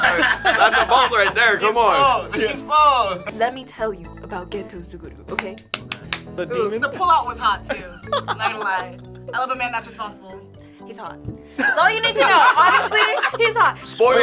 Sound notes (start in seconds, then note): 5.3 claps